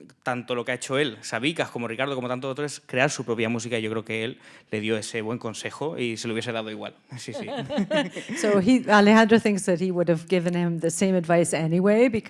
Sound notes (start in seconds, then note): 2.1 speaking in Spanish; 7.2 laughing